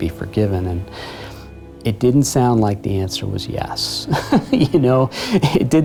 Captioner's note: chuckles